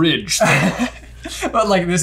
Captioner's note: laughs